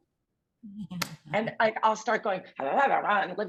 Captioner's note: grumbling noise